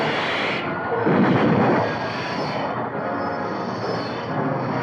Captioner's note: explosion booming